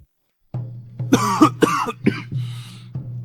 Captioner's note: cough, cough, cough